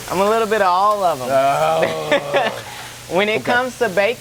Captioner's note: Apollo groans